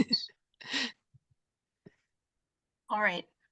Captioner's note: laughs